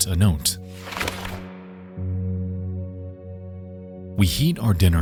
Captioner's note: note flutters